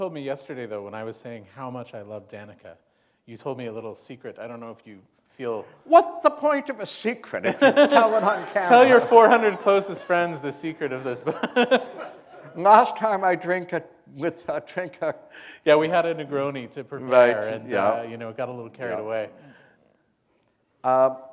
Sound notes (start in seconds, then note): 7.4 laughter; 11.5 chuckle